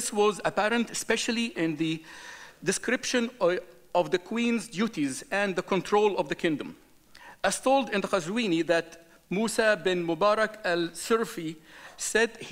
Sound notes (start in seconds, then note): none